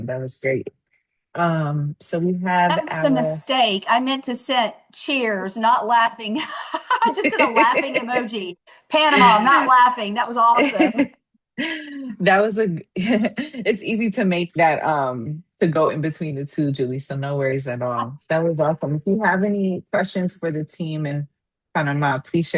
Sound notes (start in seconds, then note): 6.4 laughing; 10.5 laughter